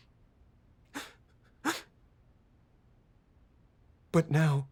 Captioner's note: weeping